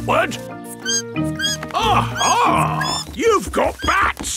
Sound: bat squeaking

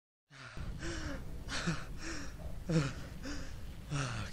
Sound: shaky, gasping breaths

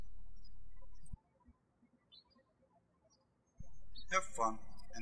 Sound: birds chirping

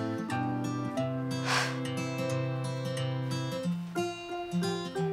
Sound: Rhyme sighs

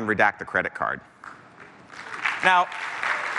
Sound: applause

